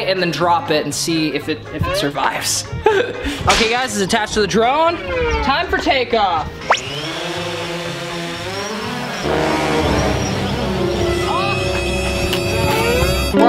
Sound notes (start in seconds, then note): 6.7 drone whizzes; 9.6 suspenseful music